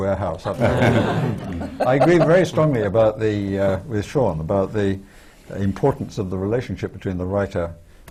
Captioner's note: laughter